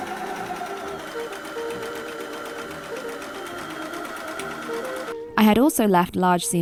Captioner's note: overlocker whirring